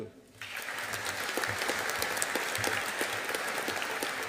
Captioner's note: audience applauding